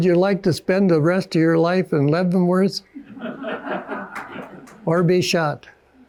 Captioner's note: audience laughing